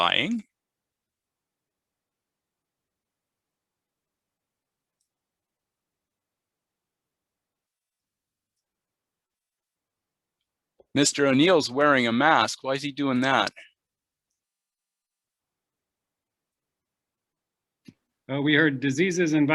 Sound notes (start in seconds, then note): 5.2 pause